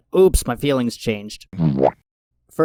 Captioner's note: squidward womp